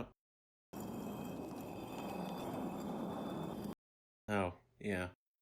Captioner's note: concrete scraping